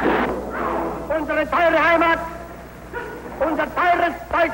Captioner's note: speaking German